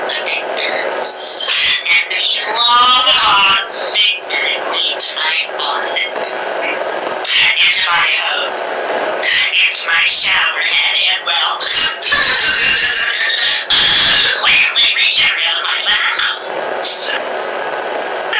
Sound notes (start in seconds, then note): 11.6 laughs